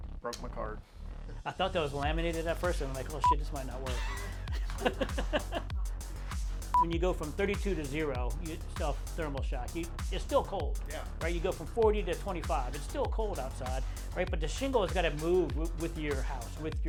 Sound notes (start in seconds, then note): 3.2 beep; 3.4 laughs; 6.7 film beeps